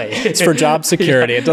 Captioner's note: laughter